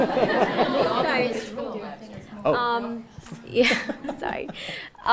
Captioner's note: audience laughing